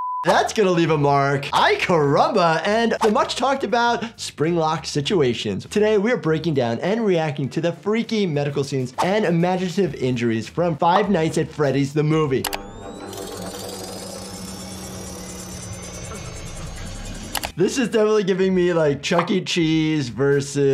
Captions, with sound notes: That's gonna leave a mark, aye carumba, and the much talked about spring lock situation. Today we are breaking down and reacting to the freaky medical scenes and imaginative injuries (mechanical whirring) This is definitely giving me